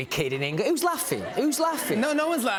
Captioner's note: laughter